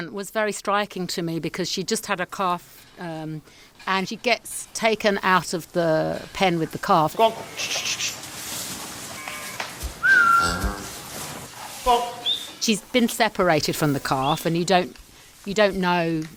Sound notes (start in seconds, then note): 8.9 shushing; 10.0 whistling; 10.0 cow mooing